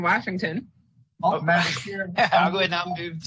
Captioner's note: laughs